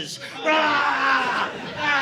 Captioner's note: screaming